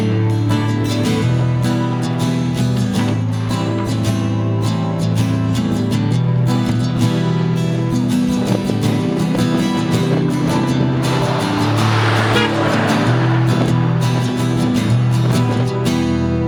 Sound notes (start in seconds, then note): 10.8 truck horn honking